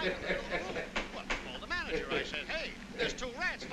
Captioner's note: laughs